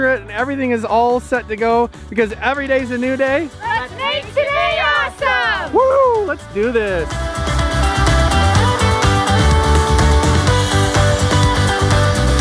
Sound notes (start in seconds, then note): 4.0 cheers; 6.7 playful guitar music